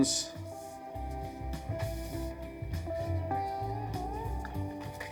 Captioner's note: paper rustling